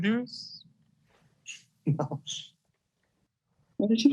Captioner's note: laughing